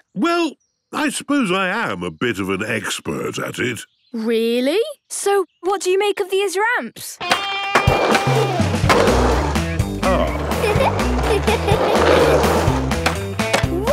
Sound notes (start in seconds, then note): 7.2 rock music; 10.0 giggles